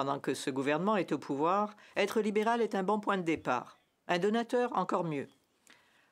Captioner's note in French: voix de l'interprète